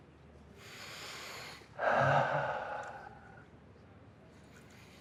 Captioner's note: breathing deeply